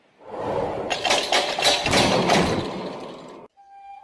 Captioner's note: cell doors close; flute music plays